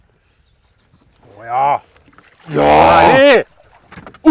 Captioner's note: mating call